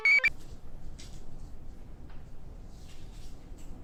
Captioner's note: computer chirps; notes rustle